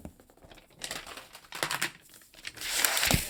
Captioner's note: plastic rustling